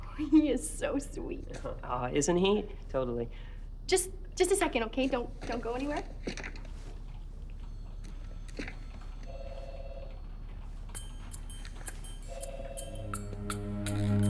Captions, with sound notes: - Oh, he is so sweet. - Isn't he? Totally. - Just a second, okay? Don't go anywhere. (phone ringing) (suspenseful music)